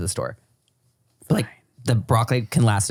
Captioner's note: whispers